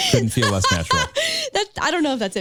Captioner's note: laughing